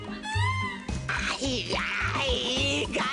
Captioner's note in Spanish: Susurra